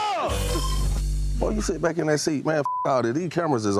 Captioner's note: beep